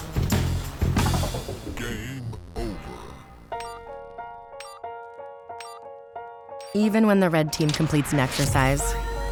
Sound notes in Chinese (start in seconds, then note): 1.6 機器人的聲音; 3.4 輕柔的音樂